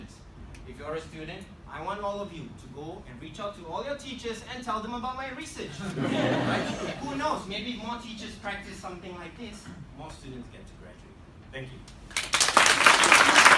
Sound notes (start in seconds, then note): 5.8 crowd laughs